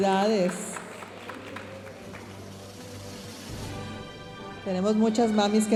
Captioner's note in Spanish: aplausos de la audiencia